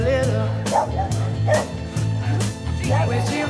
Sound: dog barking

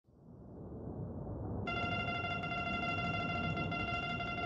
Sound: beeping

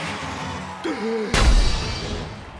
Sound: gasps

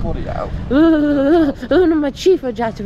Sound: chattering

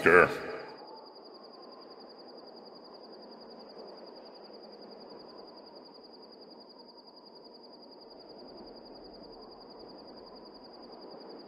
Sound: silence

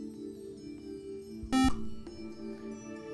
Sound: buzzer

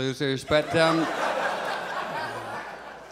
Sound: audience laughs

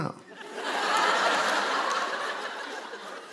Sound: laughter

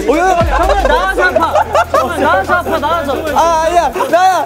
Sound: can't stop laughter

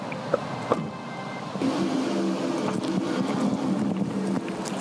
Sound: engine hums

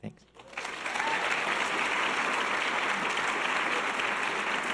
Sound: audience applause

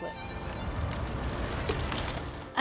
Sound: cyclist passes

